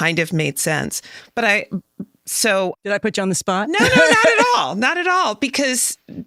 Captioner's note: chuckles